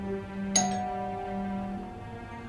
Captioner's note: doorbell rings yet again